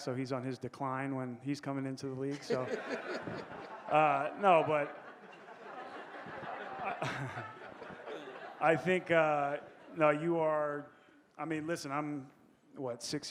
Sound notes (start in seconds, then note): 5.9 audience laughing